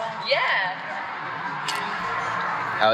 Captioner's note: crunching